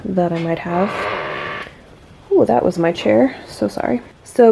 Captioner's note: creeeeaak